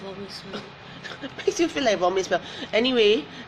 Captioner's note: laughs